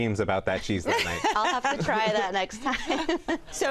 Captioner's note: laughs